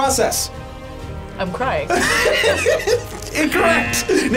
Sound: laughs

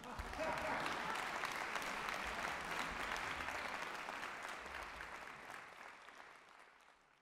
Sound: applausi

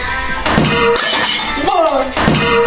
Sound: A sound of something breaking

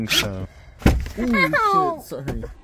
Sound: thud

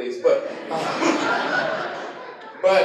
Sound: laughter

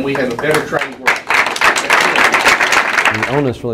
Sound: applause

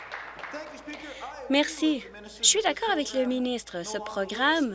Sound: applause

